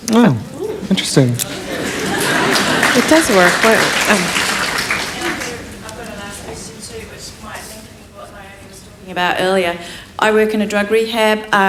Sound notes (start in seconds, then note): 1.5 applause